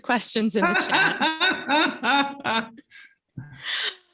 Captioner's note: laughter